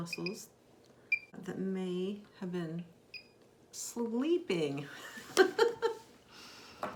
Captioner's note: laughs